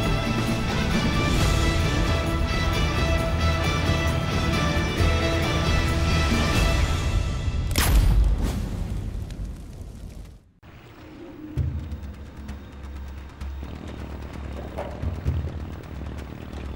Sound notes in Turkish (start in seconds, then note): 7.6 Alev sesi; 10.7 Müzik - Gerilim